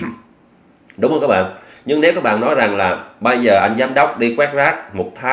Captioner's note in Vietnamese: hắng giọng